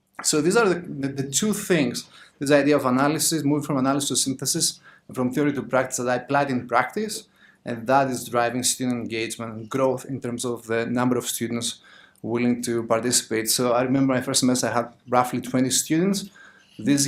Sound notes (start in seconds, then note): none